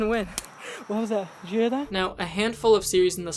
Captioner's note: branch snaps